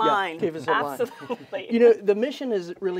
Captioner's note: laughing